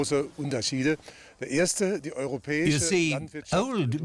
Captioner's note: man speaking German; speaking German